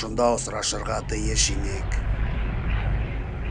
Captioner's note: whooshing